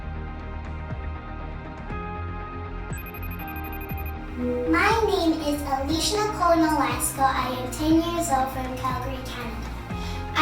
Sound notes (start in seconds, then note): 2.9 phone rings